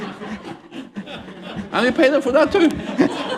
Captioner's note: laughter